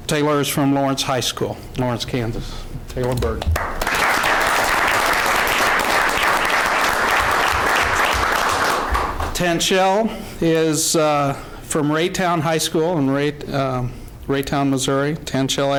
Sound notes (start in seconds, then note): 8.0 applause